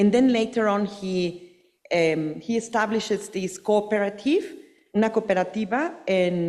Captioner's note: speaking Spanish